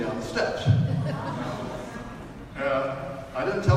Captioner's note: audience laughs